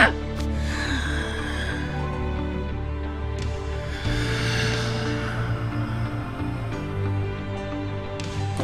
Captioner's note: breathes in